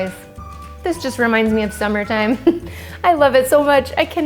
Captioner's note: chuckles